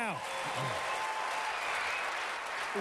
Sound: applause

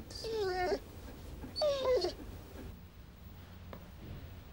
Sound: Prince whimpers

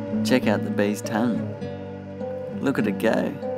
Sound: voiceover

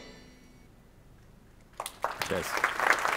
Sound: applause

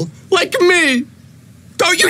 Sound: voice breaking

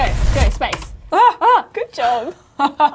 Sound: laughs; both gasps

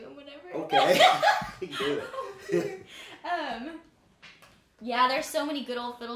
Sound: both laughing

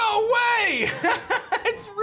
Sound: laughs

